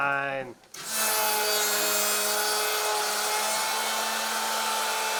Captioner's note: machine whirring